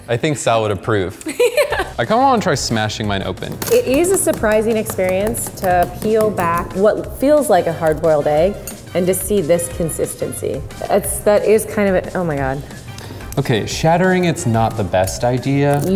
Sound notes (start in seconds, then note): 1.2 laughs